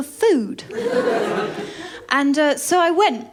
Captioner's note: laughter